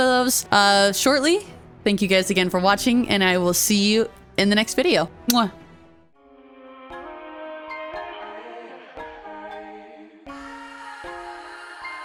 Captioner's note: kiss